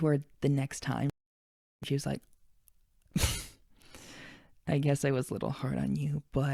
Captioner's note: chuckles